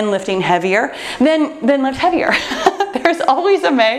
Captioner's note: laughs